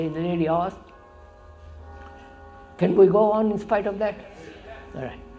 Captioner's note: sound of bells